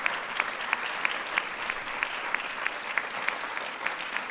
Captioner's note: applause